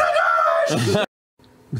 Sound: laughs

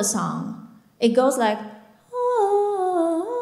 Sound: humming

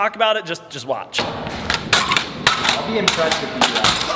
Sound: metal clicking

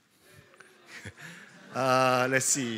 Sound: scattered laughter

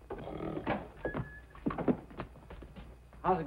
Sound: officer snoring

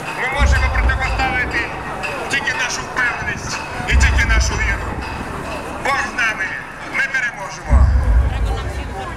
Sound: voice-over

